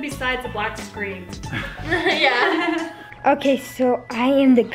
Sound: laughing

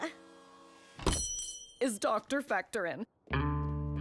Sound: bell ringing

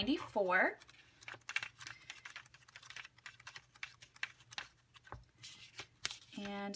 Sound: pages flipping

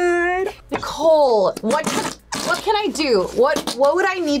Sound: whoopee cushion squelches

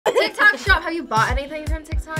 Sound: laughs

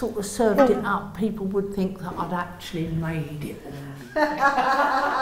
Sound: laughter

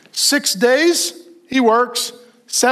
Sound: none

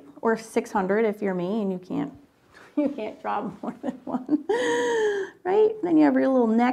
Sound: laughs

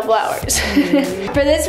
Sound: laughing

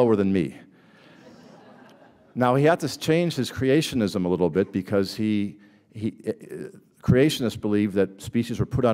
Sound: laughter

